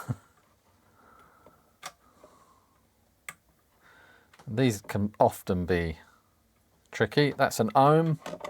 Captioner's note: silence